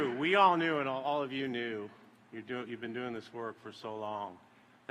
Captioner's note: applause